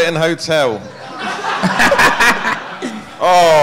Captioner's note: audience laughing